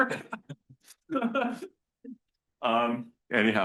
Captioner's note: laughs